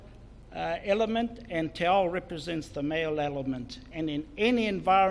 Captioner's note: foreign Language; foreign Language